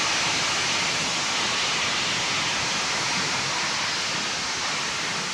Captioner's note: train passing